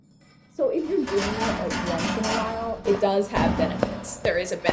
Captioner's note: chains rattle; key rattles in lock; footsteps